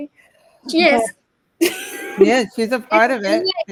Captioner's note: laughing